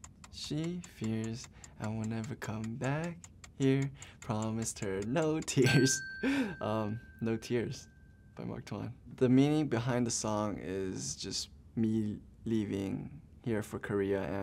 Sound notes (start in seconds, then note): 4.8 bell rings